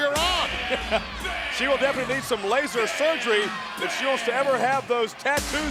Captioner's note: laugh